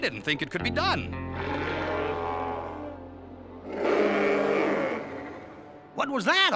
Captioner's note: Mack roaring